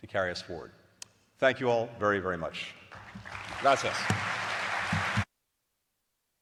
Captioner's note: applause